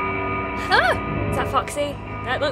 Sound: startled yelp

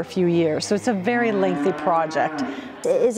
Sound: steers mooing

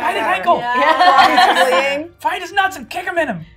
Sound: gamers laughing

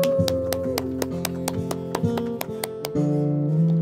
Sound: applause

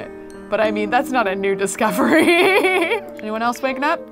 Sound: laughs

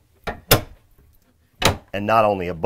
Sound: cabin banging

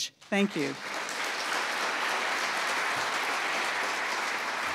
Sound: audience applauds

